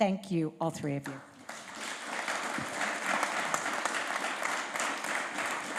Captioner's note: applause